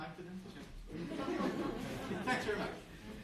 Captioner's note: group laughing